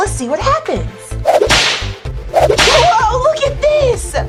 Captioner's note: door whips